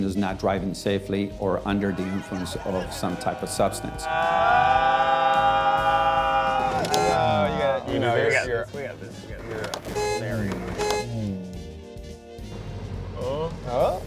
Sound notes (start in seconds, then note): 4.5 screaming; 6.8 car horn honks; 9.8 car horn honking